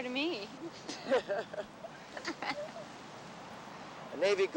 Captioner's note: everyone laughing